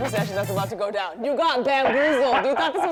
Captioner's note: laughs